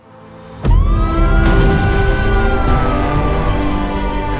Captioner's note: sirens blare